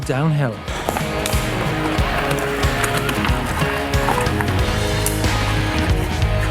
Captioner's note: heavy rock music; gravel crunching